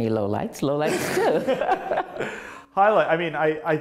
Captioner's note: laughing